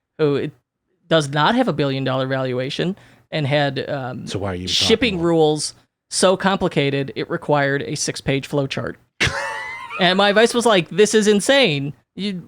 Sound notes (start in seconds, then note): 9.2 laughing